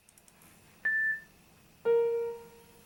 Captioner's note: beep; piano playing